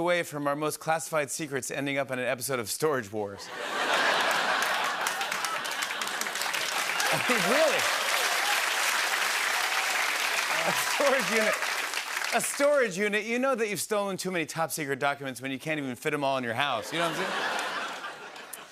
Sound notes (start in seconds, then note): 3.9 laughter and applause; 8.1 cheers and applause